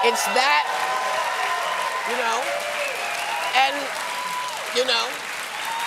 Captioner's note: cheers and applause